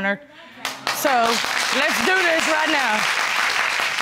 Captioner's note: audience applauding